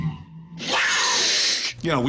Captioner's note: growling